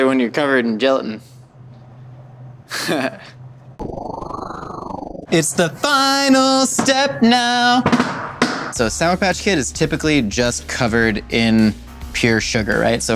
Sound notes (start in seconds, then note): 2.7 giggling; 3.5 whirring; 7.8 wood slapping